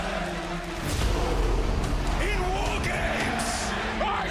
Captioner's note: crowd cheering